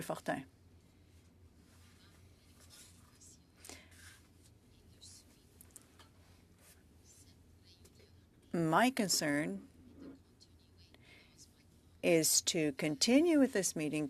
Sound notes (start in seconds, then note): 6.8 speaking French